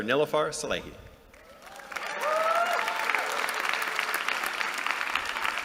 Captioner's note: applause